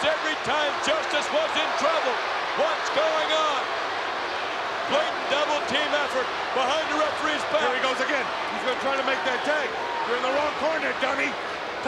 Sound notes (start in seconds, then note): 4.0 crowd roars